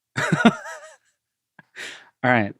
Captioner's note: laughs